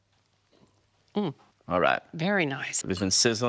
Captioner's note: hums positively